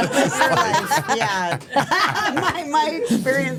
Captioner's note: everyone laughs